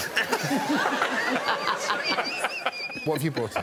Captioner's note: laughter